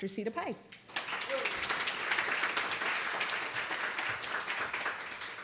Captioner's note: applause